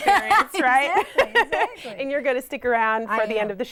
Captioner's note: laughter